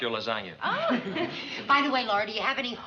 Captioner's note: chuckles